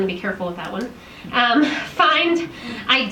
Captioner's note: chuckles